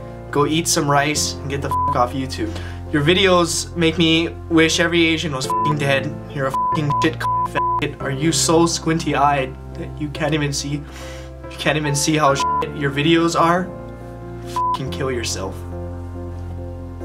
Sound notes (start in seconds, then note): 10.9 sniffs